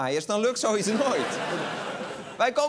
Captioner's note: laughter